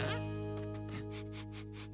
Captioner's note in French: reniflement